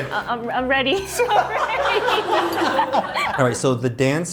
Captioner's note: laughter